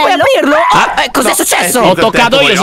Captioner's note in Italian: urla